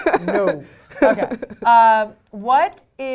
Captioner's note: laugh